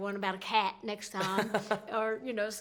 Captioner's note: laughs